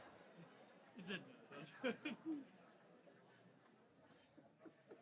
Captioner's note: laughs; audience chattering